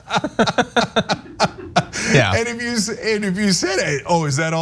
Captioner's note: laugh